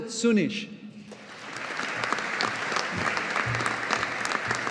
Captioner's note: audience applauding